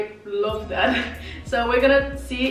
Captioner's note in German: laughs